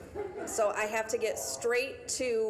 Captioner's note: audience chuckling